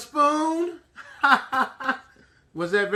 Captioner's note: laughing